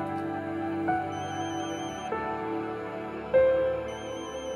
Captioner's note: Cell phone ringing